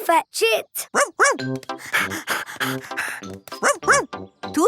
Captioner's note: panting